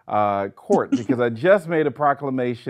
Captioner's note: laughing